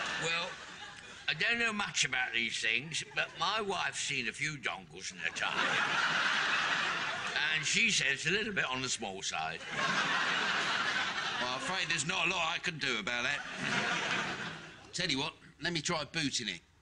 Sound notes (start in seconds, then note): 5.2 audience laughing; 9.6 audience laughing